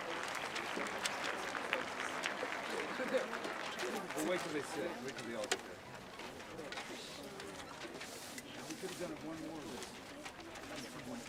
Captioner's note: applause